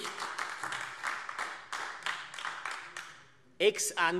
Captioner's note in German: Beifall AfD